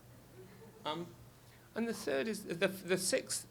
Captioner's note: scattered laughter